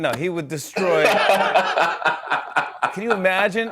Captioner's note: laughter